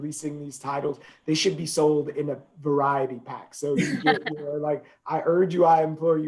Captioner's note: laughing